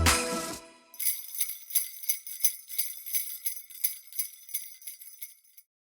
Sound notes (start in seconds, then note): 0.9 slaigh bells fading